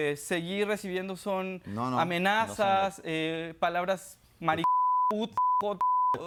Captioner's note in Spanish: Bip